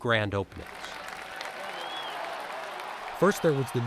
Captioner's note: people clapping